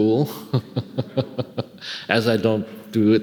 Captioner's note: laughing